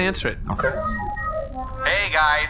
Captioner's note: call accepts